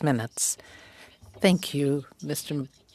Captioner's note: speaking french